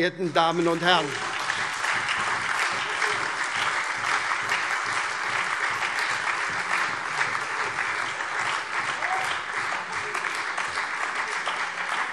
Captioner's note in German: Lebhafter Beifall SPD und Freie Demokraten - Vereinzelter Beifall DIE LINKE